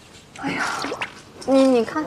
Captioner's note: sighs